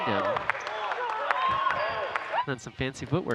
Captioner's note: audience cheering and clapping